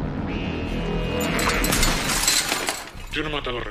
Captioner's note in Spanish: Cristal roto